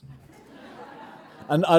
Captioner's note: audience laughing